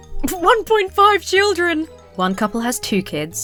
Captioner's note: holding back laughter